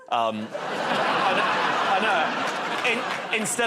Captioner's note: laughter